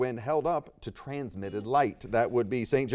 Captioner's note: buzzer beeps